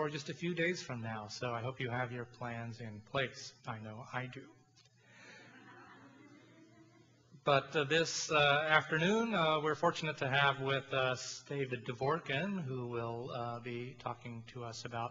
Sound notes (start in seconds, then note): 5.4 audience laughs